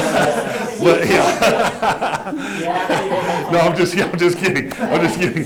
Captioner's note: laughter